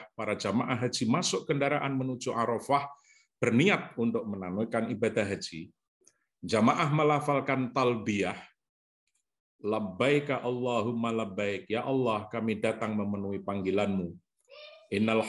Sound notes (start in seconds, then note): 8.2 speaks Arabic